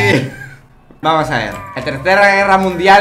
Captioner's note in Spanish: risas